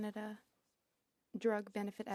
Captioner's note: speaking French